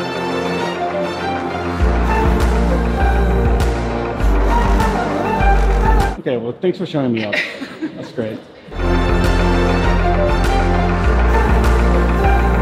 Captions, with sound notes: Okay, well thanks for showing me up, that's great. (laughter) (lively music)